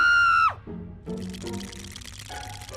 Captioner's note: shivering